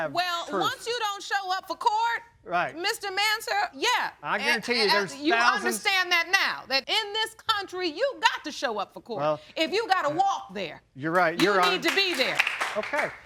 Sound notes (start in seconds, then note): 4.0 stutters